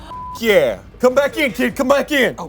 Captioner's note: beep